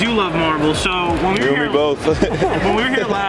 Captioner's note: laughs